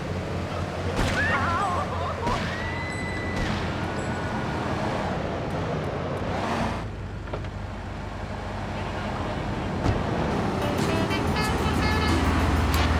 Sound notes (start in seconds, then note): 2.0 car horn honking; 2.3 screaming